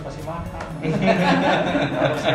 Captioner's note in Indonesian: tertawa